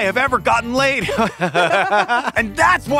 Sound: laughs

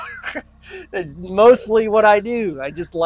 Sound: laughs

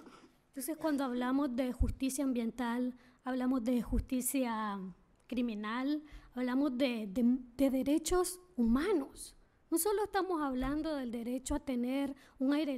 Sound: speaking spanish

